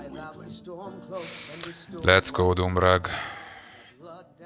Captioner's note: deep breath